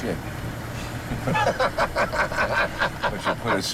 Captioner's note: both laughing